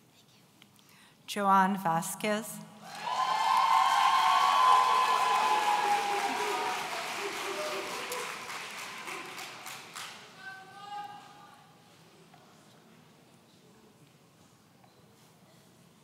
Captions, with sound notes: Joan Vasquez. (audience cheering)